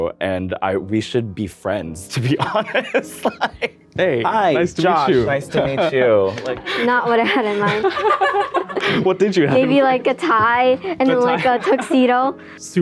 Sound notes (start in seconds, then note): 2.2 laughs; 7.9 laughs